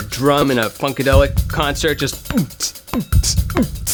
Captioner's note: imitating beat